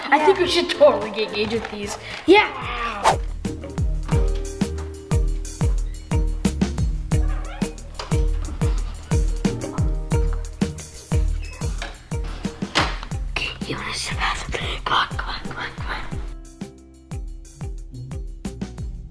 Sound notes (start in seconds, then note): 3.0 comic whoosh; 3.2 suspenseful action music; 7.2 door creaking; 11.3 door closing; 13.5 whispering